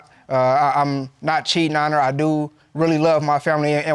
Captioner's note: stammers